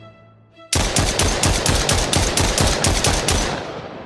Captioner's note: gun blasting